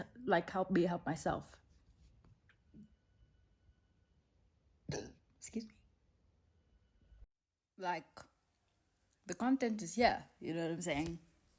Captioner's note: burp